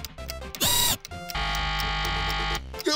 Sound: buzzer ringing

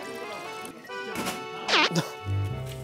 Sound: grunt

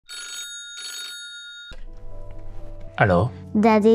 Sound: phone rings

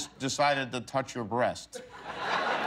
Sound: laughter

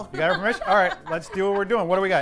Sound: laughter

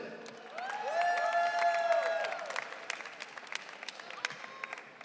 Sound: audience cheering

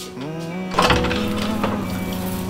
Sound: door opens

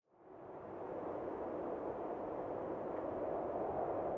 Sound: wind rushing

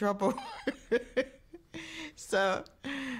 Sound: laughing

